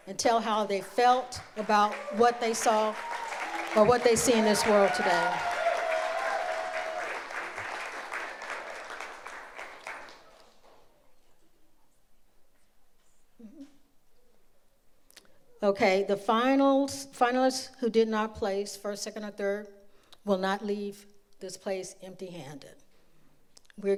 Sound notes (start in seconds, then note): 5.6 audience applauds